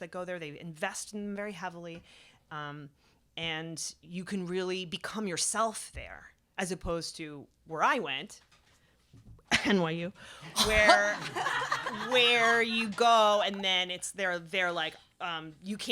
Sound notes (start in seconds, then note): 10.5 cough